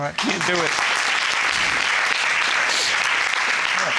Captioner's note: audience applauding